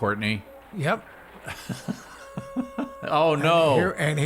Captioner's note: laughing